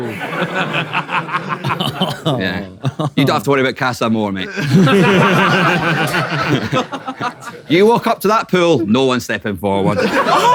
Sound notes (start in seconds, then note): 0.0 people in room chuckle; 4.4 people in room laughing